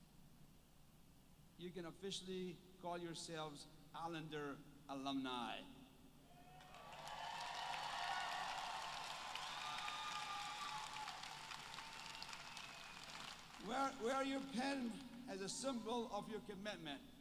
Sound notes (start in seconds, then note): 6.6 applause